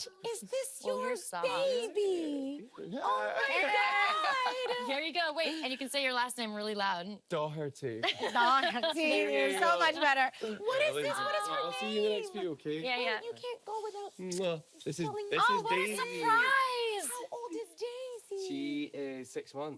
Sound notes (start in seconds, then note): 2.9 laughing